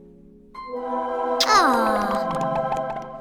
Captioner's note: lovesick sigh